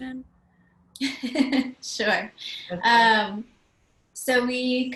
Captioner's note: laugh